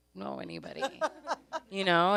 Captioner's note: laughs